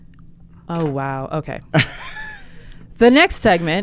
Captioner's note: laughs